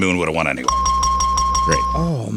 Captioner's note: bell ringing